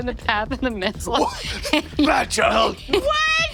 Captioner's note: laughs